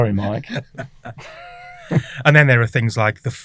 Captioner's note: all laugh